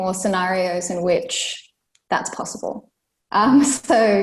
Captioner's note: laughs